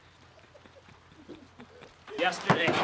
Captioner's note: laughs